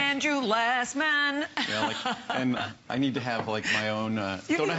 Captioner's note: laughter